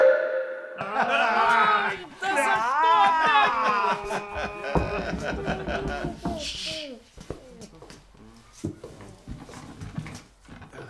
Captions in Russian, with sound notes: Ай, да за что так?! (СТУК) Тш-ш-ш!